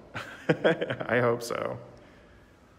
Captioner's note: laughing